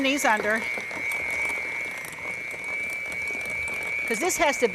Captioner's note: whirring Sound